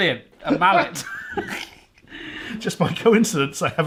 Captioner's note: laughing